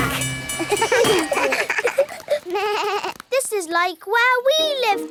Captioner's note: all laugh